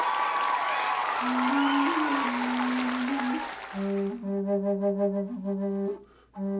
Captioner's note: cheers & applause; very loud cheering